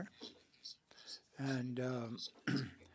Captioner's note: speaking French